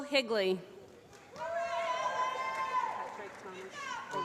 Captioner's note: applause